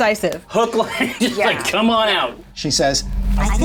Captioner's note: laughs